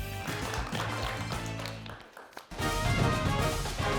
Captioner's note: audience applauds; upbeat music